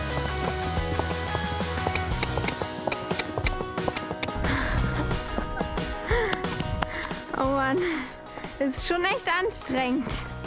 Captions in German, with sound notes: (Schnalzen) (Seufzen) Oh Mann, ist schon echt anstrengend.